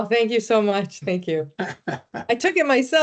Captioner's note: laughing